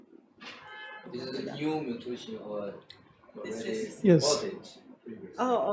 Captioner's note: man talks off-mic